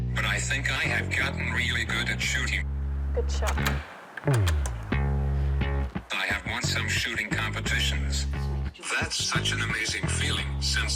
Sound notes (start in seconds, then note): 3.4 bolt clacks